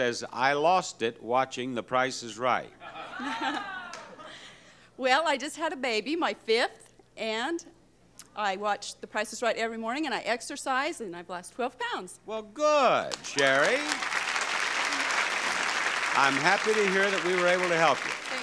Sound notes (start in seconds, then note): 2.9 giggling; 3.1 audience exclaiming; 13.0 audience clapping